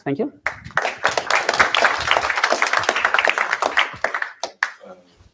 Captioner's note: applause